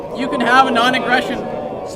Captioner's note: crowd